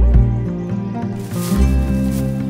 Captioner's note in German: Rascheln